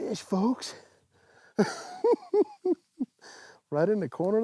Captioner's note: cackles